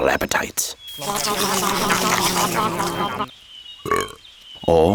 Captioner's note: sheep munching; sheep burps